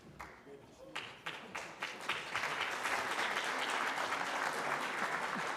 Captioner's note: applause